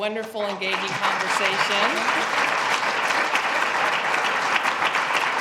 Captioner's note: applause